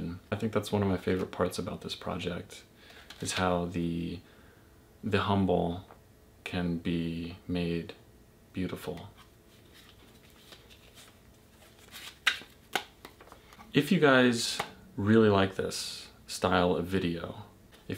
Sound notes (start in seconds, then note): 12.6 sliding and clapping